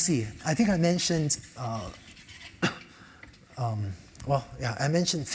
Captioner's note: cough